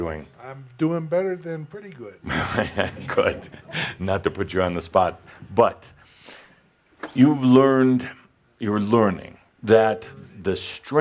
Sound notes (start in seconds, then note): 2.2 chuckling